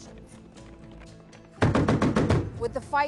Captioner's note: guns firing